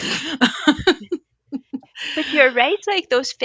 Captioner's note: both laughing